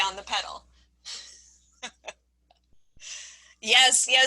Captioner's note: laughing